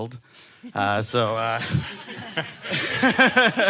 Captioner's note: laughing